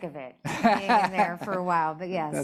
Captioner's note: laughing